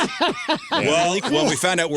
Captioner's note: laughing